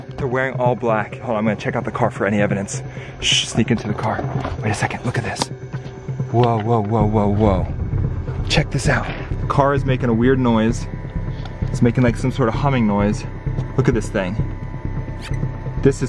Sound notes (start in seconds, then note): 3.3 shushes; 14.9 digital beeps